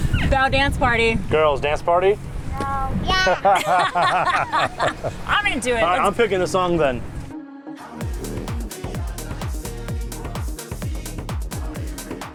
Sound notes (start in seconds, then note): 3.2 both laughing; 7.3 lively music